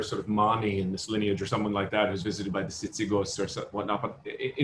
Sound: non-english

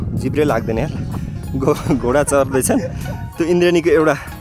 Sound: laughter

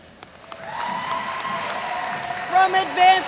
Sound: audience cheers

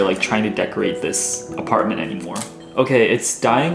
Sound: scissors snipping

